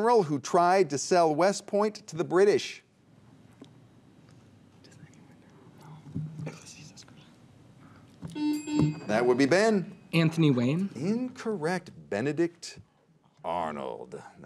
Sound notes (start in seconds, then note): 4.5 teammates whisper; 8.3 buzzer beeps